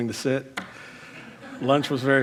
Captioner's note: crowd laughs